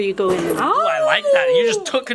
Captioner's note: howling